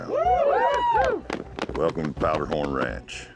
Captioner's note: all cheering, clapping